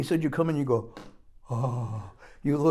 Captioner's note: gasps in amazement